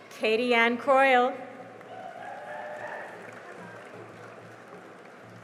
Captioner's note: cheering and applause